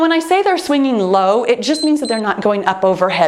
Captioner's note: timer beeps